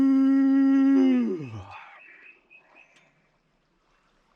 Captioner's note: yawns